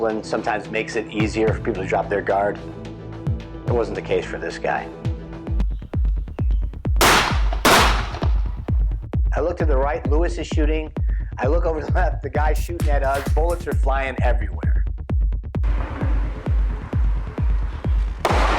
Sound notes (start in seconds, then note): 4.9 suspenseful music; 5.4 gunshots blasting; 15.6 suspenseful music continues; 18.2 gunshots blasting